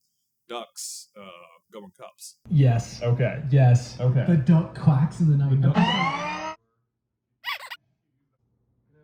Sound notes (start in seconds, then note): 7.4 squeak